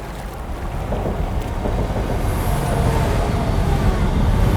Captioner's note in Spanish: retumbar